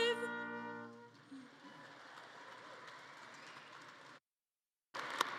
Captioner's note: audience claps